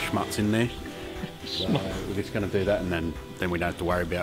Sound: laughs

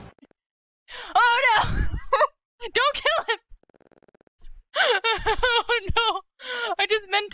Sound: gasp

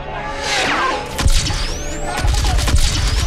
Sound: SOUND: incoming blaster bolts from guards; SOUND: the group begins firing back as enemy forces take positions

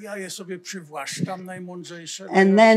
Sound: foreign language

